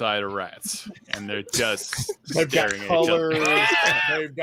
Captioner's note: wheezes